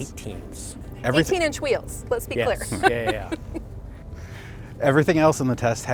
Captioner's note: chuckles